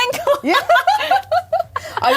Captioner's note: laughing